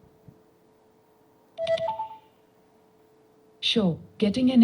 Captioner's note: activation sound